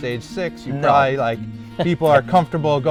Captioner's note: chuckles